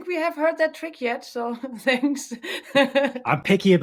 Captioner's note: laughs